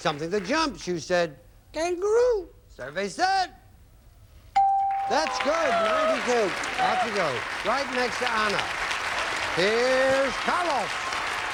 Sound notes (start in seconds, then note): 4.8 audience applauding